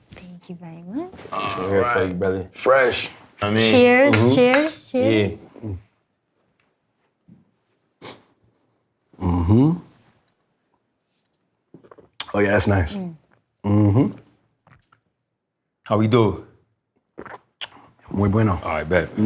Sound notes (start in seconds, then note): 6.1 mugs clink, all take a sip